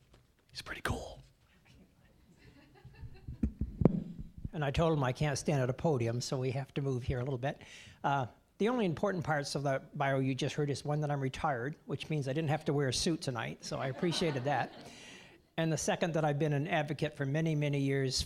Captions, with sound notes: HE'S PRETTY COOL. (scattered laughing) >> AND I TOLD HIM I CAN'T STAND AT A PODIUM, SO WE HAVE TO MOVE HERE A LITTLE BIT. UH, THE ONLY IMPORTANT PARTS OF THE BIO YOU JUST HEARD IS ONE, THAT I'M RETIRED, WHICH MEANS I DIDN'T HAVE TO WEAR A SUIT HERE TONIGHT-- (audience laughing) SO I APPRECIATED THAT. AND THE SECOND, THAT I'VE BEEN AN ADVOCATE FOR MANY, MANY YEARS